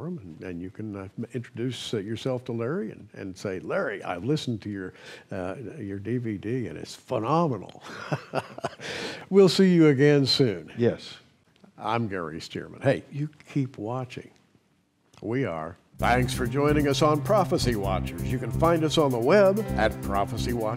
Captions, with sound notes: prophecy forum, and you can introduce yourself to Larry and say 'Larry I've listened to your DVD and it's phenomenal!' (chuckles) We'll see you again soon! >>Yes. >I'm Gary Stearman. Hey, you keep watching...we are!